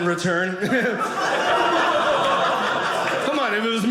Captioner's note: audience laughing